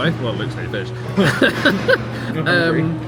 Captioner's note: both laugh